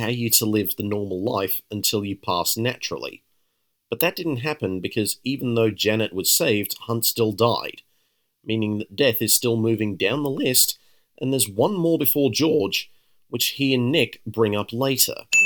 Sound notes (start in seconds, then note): none